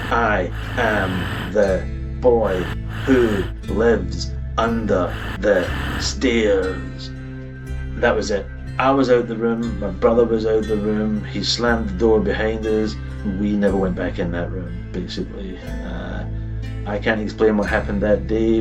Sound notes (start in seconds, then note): none